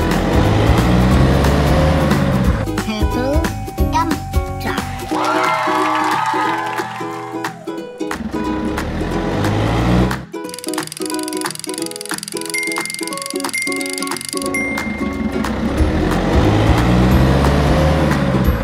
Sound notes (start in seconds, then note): 5.0 crowd cheering and applauding